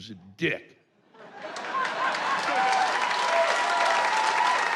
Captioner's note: applause and cheers